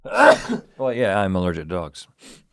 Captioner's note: Rhett sneezes